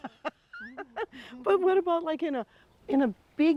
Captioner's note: laughing